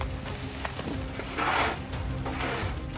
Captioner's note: wind wooshing; shovel scraping